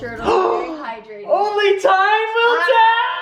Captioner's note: gasps